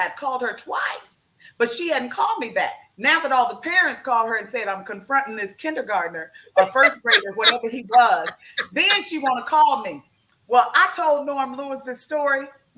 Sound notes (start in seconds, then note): 6.6 laughs